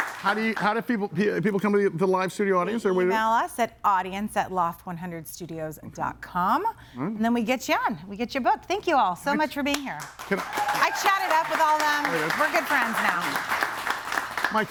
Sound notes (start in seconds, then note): 10.0 audience applauds